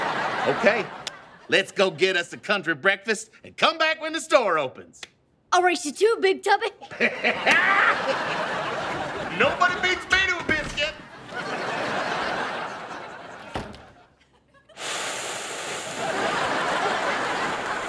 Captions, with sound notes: Okay, let's go get us a country breakfast and come back when the store opens. I'll race you to it, Big Tubby. [laughing] No one beats me to a biscuit!